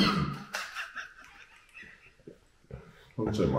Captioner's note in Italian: laugh